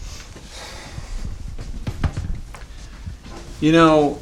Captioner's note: person sighs; object thuds